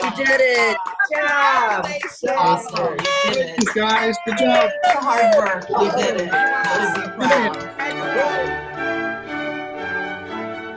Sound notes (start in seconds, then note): 2.8 horn blows; 5.8 triumphant symphonic music